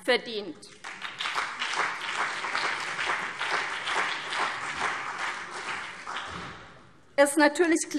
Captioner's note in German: Beifall CDU und BÜNDNIS 90/DIE GRÜNEN